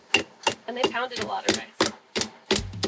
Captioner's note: pounding